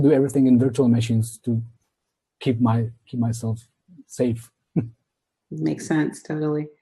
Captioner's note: laughs